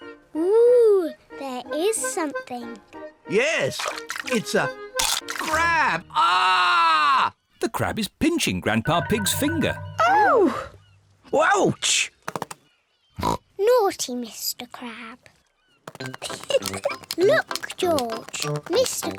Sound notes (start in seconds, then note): 5.0 crunch; 6.0 screams; 13.2 oinks; 16.2 giggles